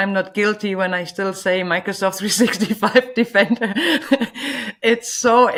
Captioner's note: laughing